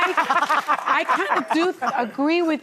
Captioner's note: audience laughing